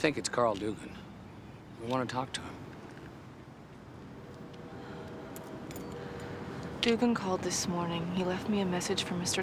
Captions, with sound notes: We think it's Carl Doogan. We want to talk to him. (train whistle blows in distance) Doogan called this morning. He left me a message for Mr. Tully,